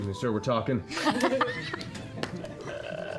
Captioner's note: laughter